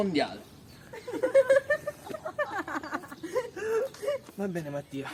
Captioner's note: laughs